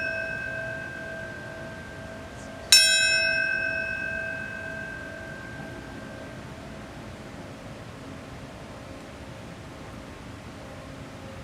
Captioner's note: bell ringing